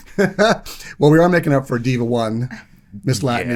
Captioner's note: laughing